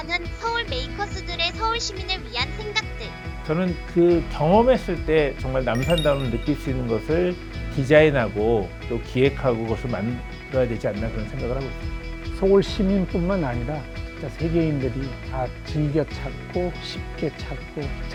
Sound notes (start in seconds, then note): 5.7 bright sound effect